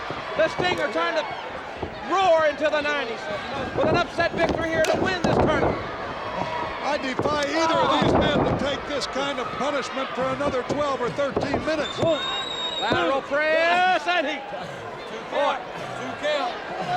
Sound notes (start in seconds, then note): 12.8 countdown thudding